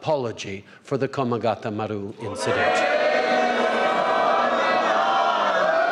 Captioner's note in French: Acclamations et chants à l’unisson